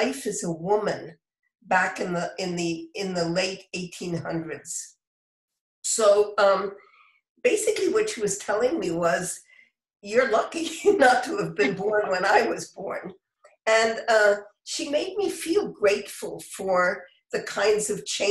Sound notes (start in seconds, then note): 11.5 laughter